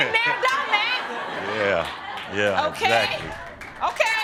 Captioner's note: audience laughing